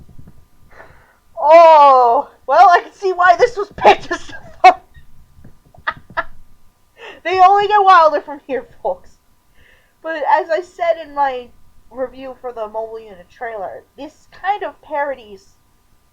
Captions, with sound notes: OHH. Well, I can see why THIS was picked as the thumbnail! (laughing) They only get wilder from here, folks! But as I said in my review for the Mobile Unit trailer, this kind of parodies...